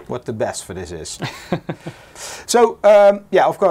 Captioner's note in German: lacht